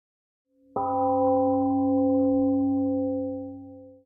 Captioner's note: temple gong rings and fades